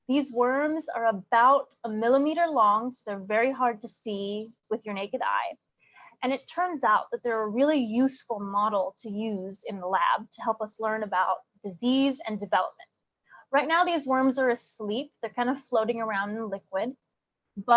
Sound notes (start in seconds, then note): none